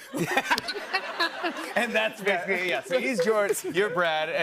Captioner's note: laughter